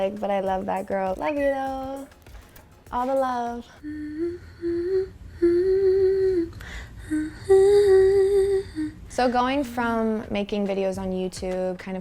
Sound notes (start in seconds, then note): 3.8 humming